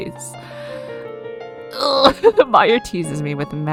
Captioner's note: struggle noise